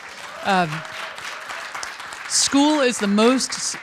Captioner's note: applause